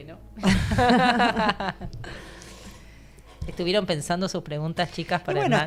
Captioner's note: laughs